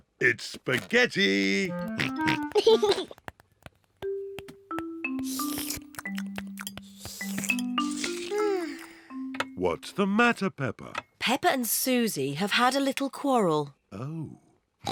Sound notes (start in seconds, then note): 2.1 george snorts and laughs; 5.1 slurping; 7.9 sighs loudly